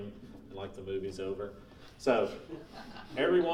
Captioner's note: laughing